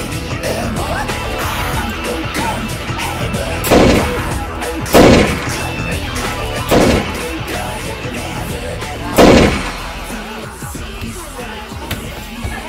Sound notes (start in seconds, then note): 4.9 blam!; 4.9 kaplow!